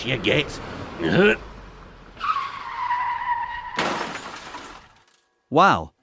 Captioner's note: grunt; squeal of brakes, impact